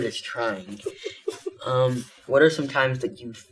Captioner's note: giggles